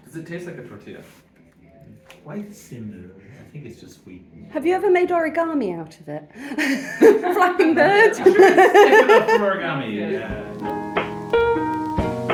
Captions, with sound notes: - Does it tastes like a tortilla? - Quite similar. I think it's just wheat and- - Have you ever made origami out of it? [laughing] Flapping bird? [laughing] - I should have taken up origami, yeah. [chilled lofi music]